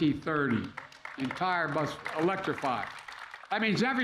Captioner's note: applause